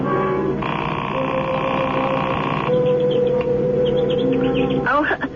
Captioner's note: snoring